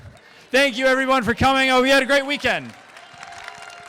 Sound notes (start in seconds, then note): 2.0 crowd clapping and cheering